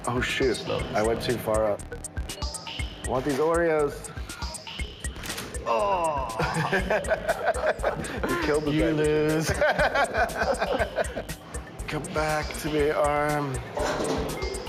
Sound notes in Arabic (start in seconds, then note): 5.6 المضيف يضحك; 5.7 آهات المضيف; 9.8 المضيف يضحك